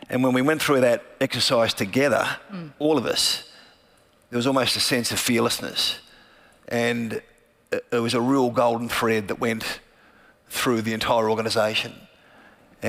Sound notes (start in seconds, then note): none